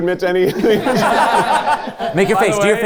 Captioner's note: all laughing